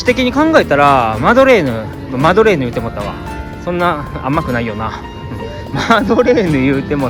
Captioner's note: laugh